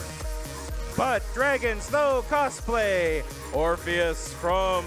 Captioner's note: none